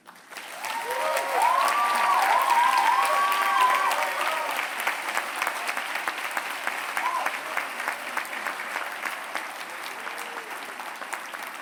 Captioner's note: applause